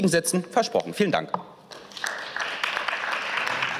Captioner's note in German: Beifall